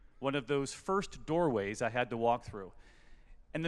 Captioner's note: none